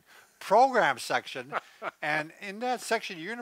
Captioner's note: laughs